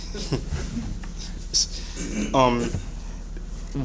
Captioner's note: laughter